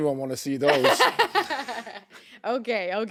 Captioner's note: chuckling